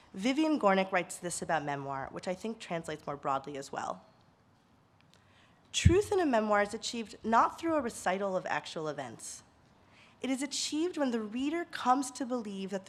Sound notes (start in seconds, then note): none